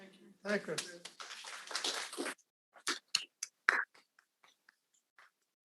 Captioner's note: audience applauding